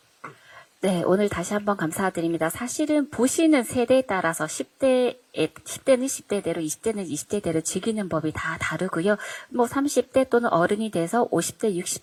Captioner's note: translating in Korean